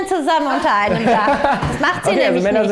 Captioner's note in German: Lachen